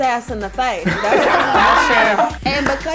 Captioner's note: all laughing